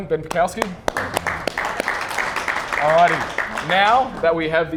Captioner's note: clapping